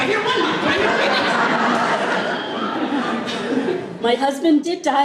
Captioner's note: group laughs